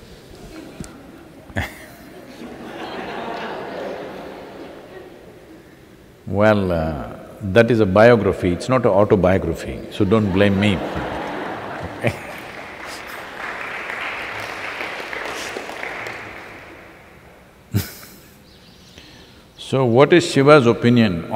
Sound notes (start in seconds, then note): 10.0 laughter/Applause